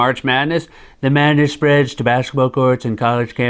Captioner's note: As Trump